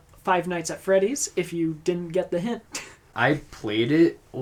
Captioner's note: scoffs